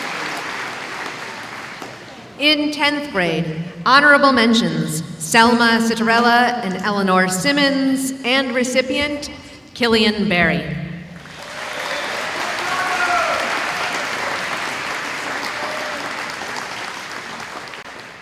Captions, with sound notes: In 10th grade, honorable mentions, Selma Citerrella and Eleanor Simmons, and recipient, Killian Berry. [ Applause ]